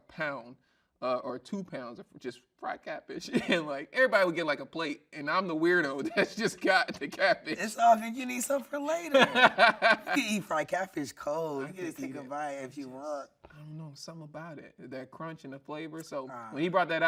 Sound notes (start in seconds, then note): 9.1 laughing